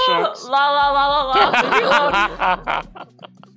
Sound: laughing

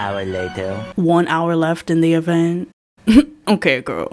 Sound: chuckle

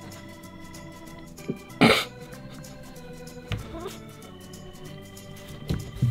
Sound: laughs

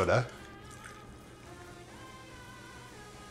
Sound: fizzing

